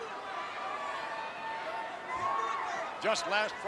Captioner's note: crowd yelling